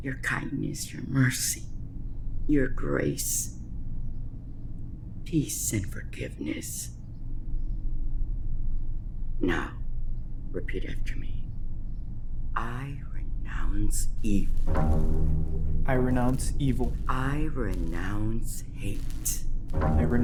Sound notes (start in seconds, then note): 14.3 lights buzz; 19.6 dark, ominous music